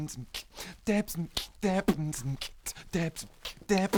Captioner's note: still beatboxing